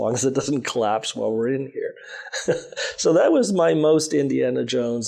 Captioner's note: chuckles